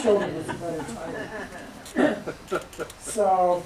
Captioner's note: laughter